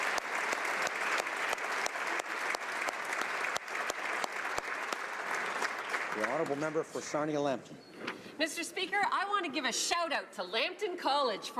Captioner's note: applause